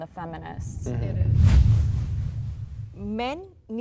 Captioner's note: whooshing sound